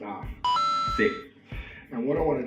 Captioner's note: ding